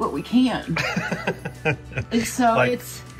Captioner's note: laughs